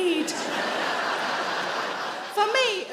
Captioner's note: audience laughing